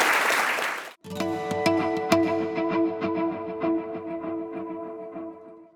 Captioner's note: applause